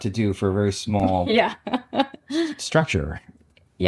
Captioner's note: laughs